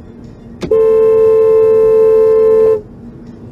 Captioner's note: dashcam driver honks